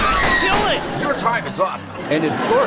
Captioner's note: screaming; crashing; audience laughing